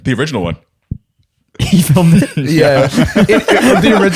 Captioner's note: laughter